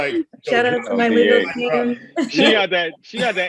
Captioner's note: laughs